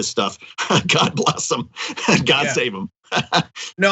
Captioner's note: laugh